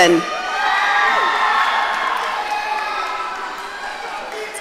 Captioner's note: audience cheering